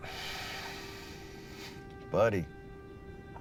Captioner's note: exhales